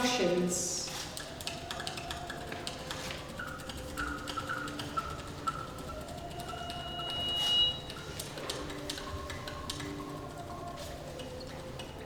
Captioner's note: sharp High-Pitched Noises